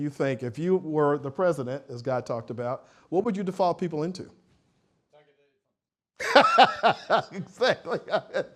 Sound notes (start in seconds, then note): 6.2 laughs